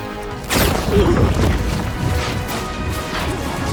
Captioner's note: Aloysius grunting; loud zapping